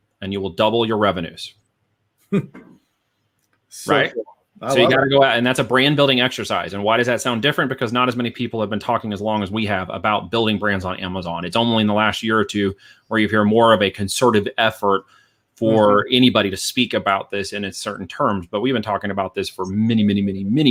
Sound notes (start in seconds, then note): 2.2 chuckles